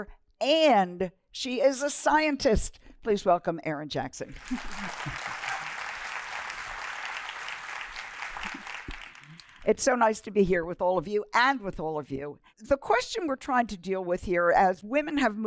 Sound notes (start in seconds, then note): 4.3 applause